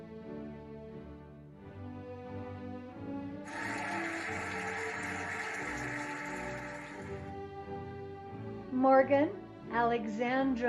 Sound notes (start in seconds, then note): 3.4 cheering and applauding